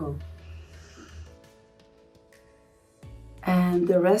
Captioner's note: Helena inhaling